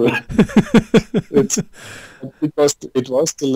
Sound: both Laughing

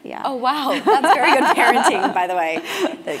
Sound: laugh

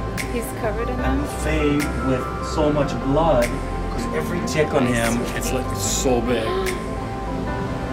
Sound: gasp

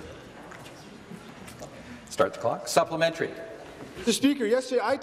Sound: conversation din

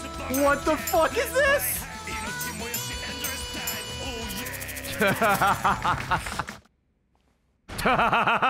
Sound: laughs

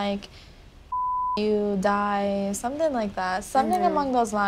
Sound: beep

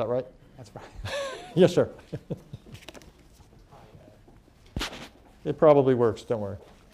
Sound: laughs

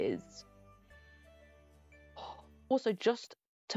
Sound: sigh

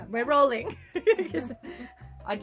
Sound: laughter

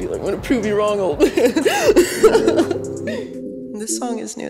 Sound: laughing

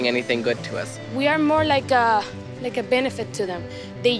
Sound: voiceover

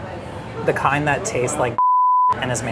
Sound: beeps

